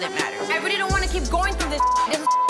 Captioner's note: beep